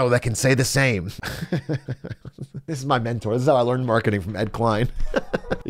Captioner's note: laughs